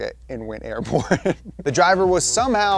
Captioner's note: laughs